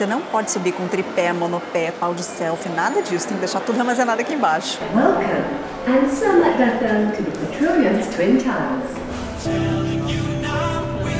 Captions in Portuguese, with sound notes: Bem-vindo (em inglês e malaio) às torres gêmeas Petronas